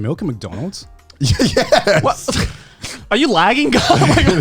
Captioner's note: laughs